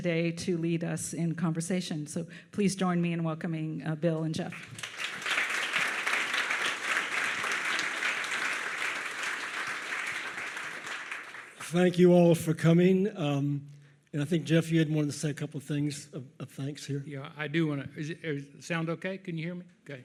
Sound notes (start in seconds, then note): 4.5 audience applauds